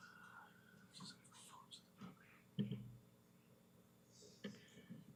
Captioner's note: whispering